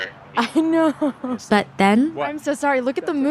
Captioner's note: laughs